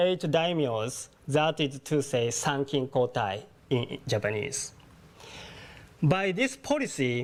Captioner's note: japanese